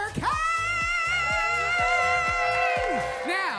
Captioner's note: audience cheers